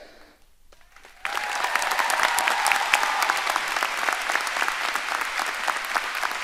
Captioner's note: audience applauding and cheering